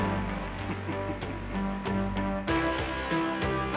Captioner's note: chuckles